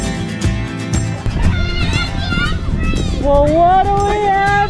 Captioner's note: cheering